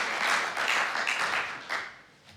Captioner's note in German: Applaus